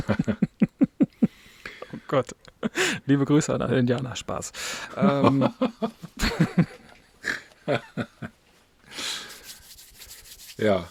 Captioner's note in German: gelächter; gelächter